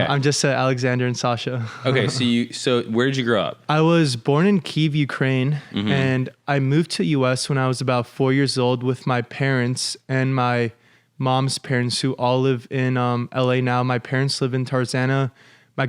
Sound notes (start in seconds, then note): 1.7 laughs